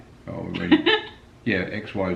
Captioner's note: laughs